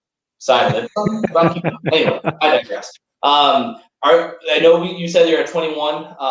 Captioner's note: laughter